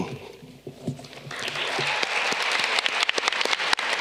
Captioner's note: audience clapping